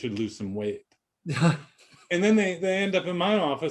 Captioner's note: laughing